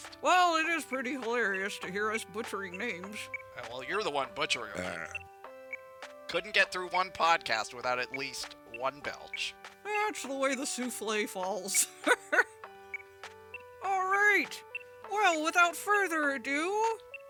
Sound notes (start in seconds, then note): 4.7 Leia burps; 11.8 laughs